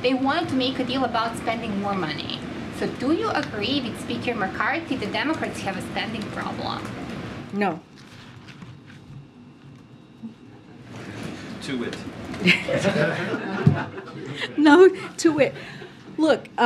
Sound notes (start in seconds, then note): 12.4 laughter; 12.4 laughs